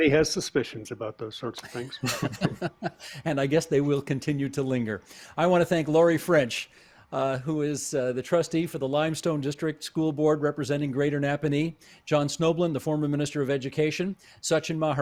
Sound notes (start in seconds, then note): 1.6 laughter